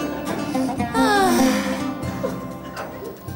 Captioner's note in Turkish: iç çekerler